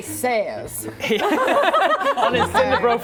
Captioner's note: laughing